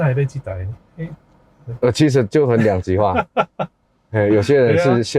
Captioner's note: haha